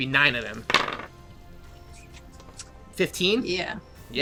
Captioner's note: dice rolling